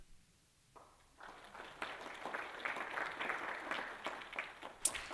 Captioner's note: applause